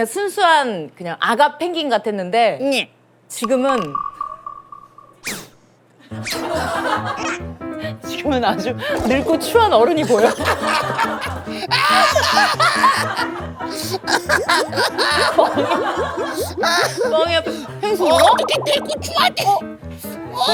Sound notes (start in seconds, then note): 13.6 sob sob